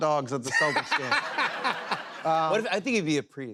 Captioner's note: laughter